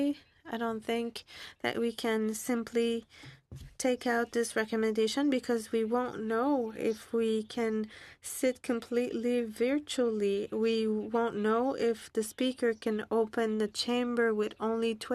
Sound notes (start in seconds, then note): 1.7 speaking French